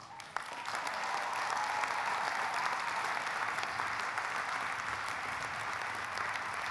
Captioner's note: audience applauding; audience cheering